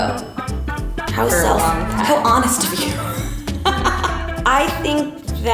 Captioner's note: laughs